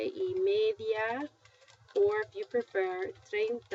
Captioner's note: speaking spanish; speaking spanish